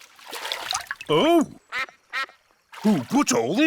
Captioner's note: quacks